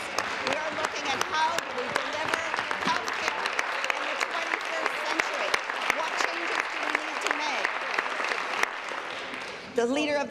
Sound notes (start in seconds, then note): 3.5 applause